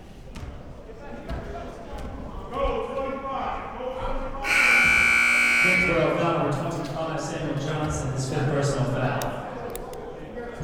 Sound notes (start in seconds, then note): 4.4 buzzer blares